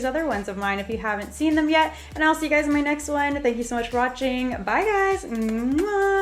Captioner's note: kisses